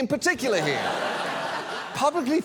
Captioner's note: studio audience laughs